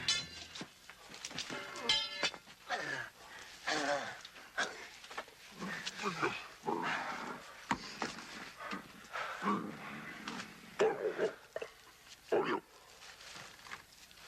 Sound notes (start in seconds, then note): 1.5 Dan gasping; 9.2 Qahhar grunting